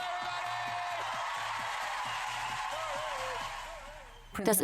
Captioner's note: crowd cheers loudly